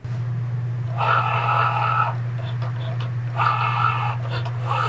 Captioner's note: machine whirring